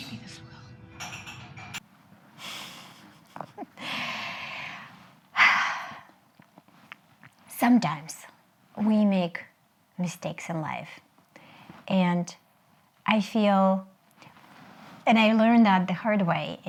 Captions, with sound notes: Maybe this will. - (chuckles and exhales) Sometimes, we make mistakes in life and I feel, and I learned that the hard way